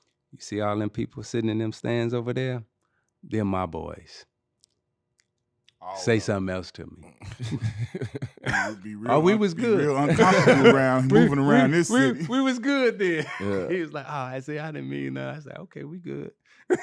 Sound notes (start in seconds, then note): 7.5 laughing